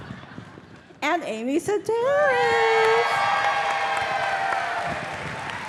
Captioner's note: audience cheering